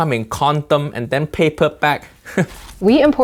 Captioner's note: scoffs